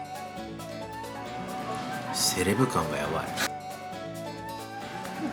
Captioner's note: laughs